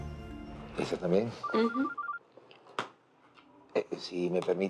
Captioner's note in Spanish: Suena el teléfono